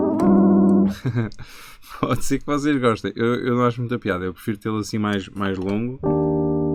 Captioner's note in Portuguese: Som de piano; risos; Som de piano